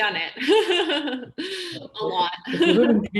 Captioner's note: laughter